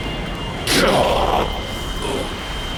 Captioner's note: roar/Yell